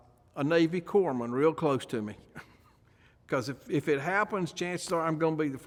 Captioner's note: chuckles